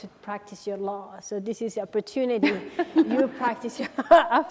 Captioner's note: laughing